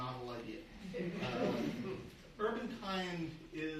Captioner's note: audience laughing